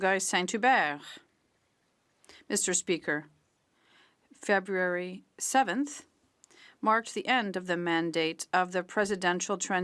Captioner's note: speaking French